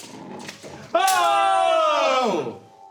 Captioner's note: light music; yelling